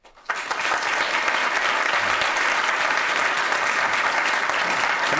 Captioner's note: applause